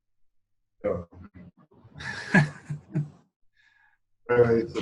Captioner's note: speaking in Yolngu